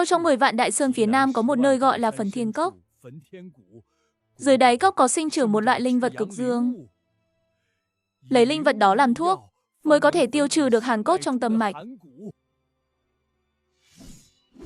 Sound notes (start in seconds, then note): none